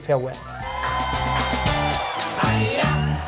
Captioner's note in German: Dynamische Musik; Jubel, Applaus